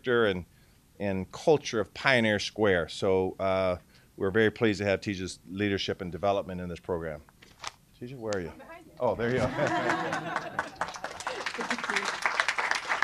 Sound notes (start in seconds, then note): 9.3 laughter; 12.8 applause